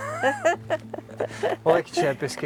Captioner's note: laughter